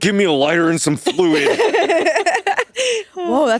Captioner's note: all giggling